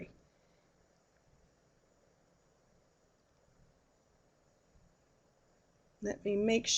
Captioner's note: no sound - waiting for poll answers